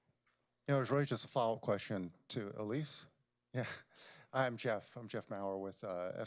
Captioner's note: laughs